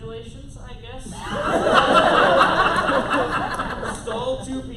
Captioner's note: laughter